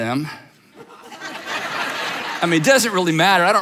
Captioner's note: audience laughs